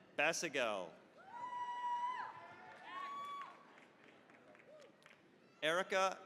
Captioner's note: cheering, applause